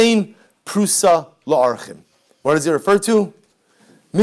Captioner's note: Hebrew